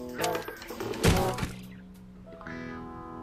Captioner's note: thud!